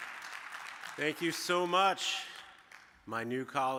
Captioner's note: audience applauding